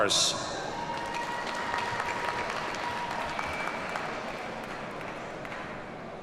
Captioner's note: audience cheers and applauds